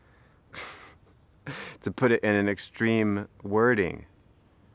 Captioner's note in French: rire